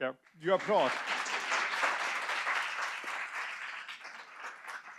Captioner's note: audience applauds